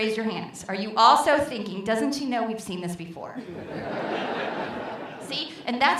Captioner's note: laughter